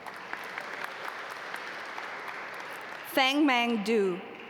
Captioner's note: audience applaud